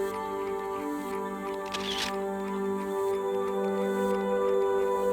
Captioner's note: camera shutter clicks